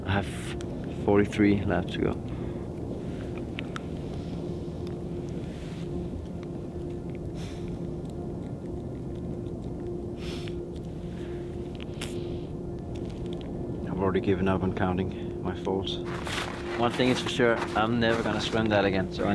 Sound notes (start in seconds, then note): 7.3 exhales